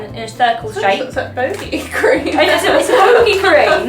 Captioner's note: laughs